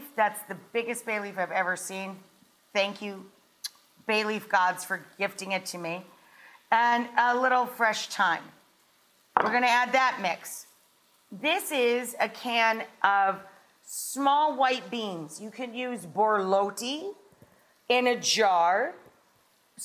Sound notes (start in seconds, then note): 3.6 lips smack; 9.4 bowl clanks